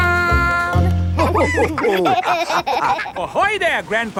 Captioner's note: all laughing